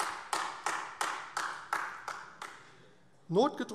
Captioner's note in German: Beifall AfD